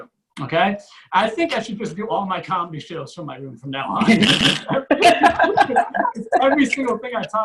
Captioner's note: audience Laughs